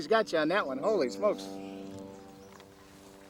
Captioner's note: voiceover